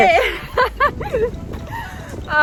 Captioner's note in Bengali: হাসছে